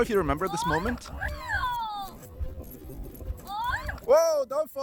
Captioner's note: screaming